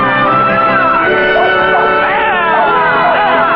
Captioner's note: dogs barking